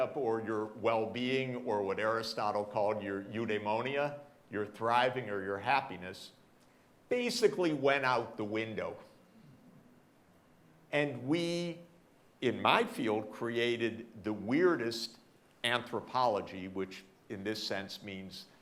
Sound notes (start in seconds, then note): none